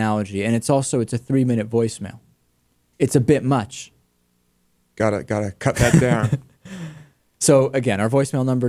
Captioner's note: laughs